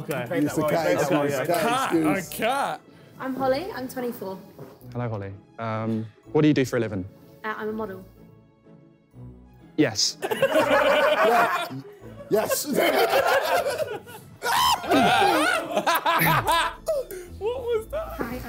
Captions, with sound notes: Use the cat excuse, cat excuse. - Cat? A cat? - I'm Holly, I'm 24. - Hello, Holly. Um, what do you do for a living? - I'm a model. - Yes. (guys laughing) - Yes. (screaming) - What was that?